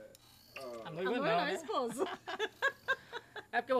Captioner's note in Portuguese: risos